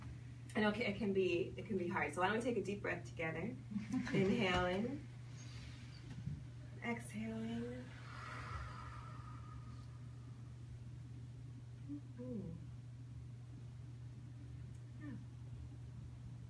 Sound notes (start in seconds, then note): 5.2 inhales; 7.9 exhales